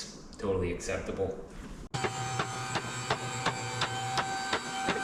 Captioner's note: buzzing